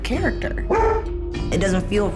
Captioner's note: dog barks